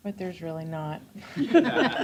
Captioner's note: chuckles